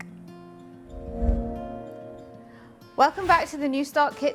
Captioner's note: logo whooshing